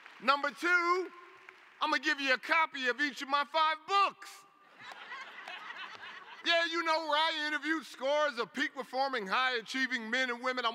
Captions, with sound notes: Number two, I'm going to give you a copy of each of my five books. [LAUGHTER] Yeah, you know, where I interviewed scores of peak-performing high-achieving men and women.